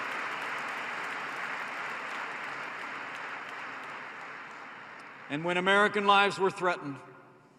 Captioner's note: applause